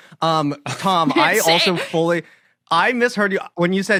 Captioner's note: Tom Scott and Ella crack up